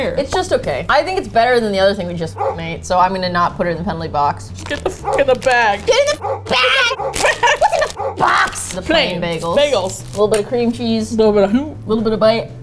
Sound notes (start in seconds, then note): 6.0 shrilly, desperately; 6.6 laughs